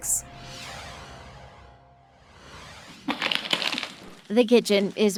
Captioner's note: graphics whoosh